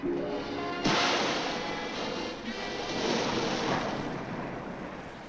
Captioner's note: water splashing